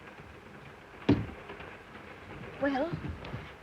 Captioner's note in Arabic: يغلق الباب